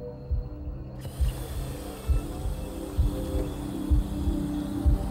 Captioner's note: water running